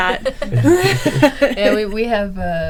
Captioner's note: people laughing